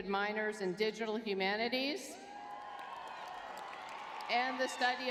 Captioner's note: crowd cheering